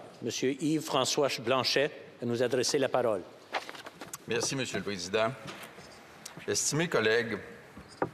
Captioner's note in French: voix de l'interprète